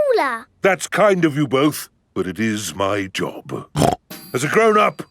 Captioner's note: snorts